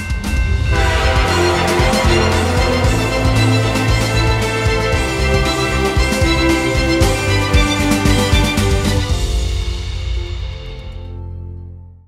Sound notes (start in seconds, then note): 2.3 crossing signal bells; 2.3 train horns